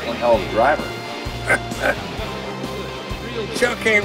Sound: chortles

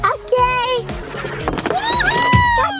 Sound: doll sliding

